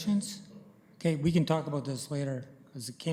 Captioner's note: none